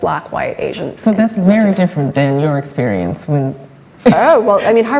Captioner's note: laughs